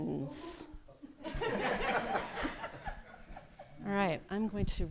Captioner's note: laughter